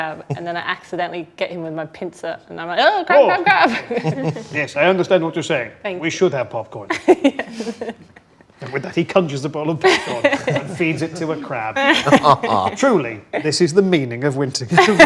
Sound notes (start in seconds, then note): 6.8 group laughs